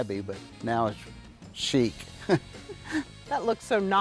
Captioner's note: chuckles